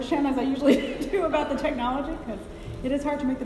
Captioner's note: laughing